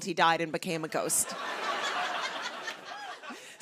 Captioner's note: laughter